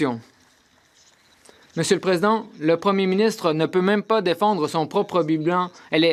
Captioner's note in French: voix de l'interprète